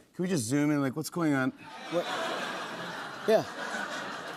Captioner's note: laughter